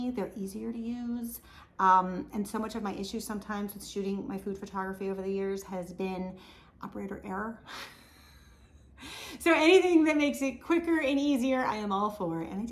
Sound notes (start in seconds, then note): 8.5 laughs